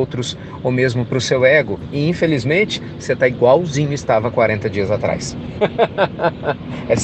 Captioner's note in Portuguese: Risos